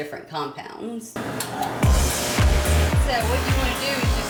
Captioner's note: whirring sound